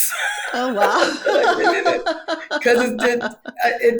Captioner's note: laughs